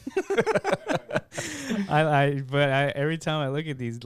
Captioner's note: laughing